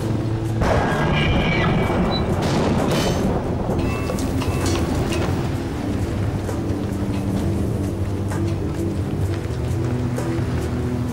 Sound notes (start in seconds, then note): 1.1 machine whirring